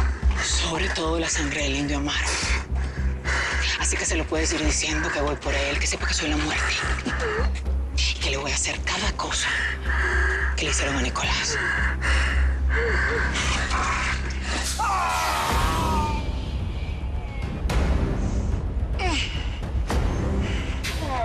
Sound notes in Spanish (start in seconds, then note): 14.7 Gritos